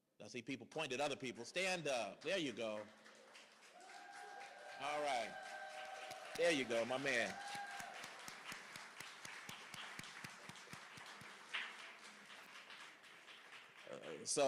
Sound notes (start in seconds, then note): 3.1 cheering; 7.7 applause